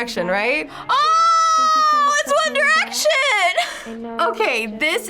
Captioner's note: laughs